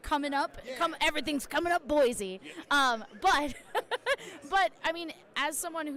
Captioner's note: laughs